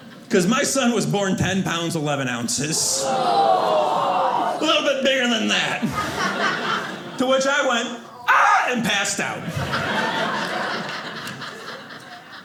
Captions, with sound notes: 'cause my son was born 10 pounds, 11 ounces. (audience oohing) A little bit bigger than that. To which I went ah and passed out. (audience laughing)